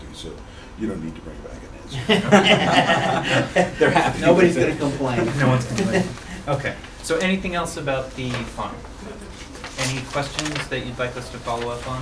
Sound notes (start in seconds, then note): 1.9 laughter